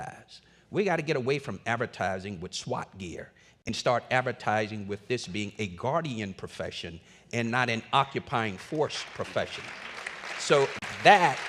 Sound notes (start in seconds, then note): 8.4 applause